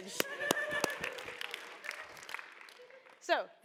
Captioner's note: applause